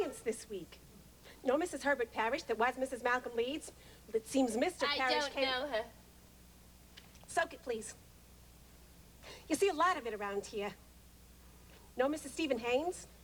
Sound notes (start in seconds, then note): none